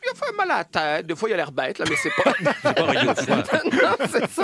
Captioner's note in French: rires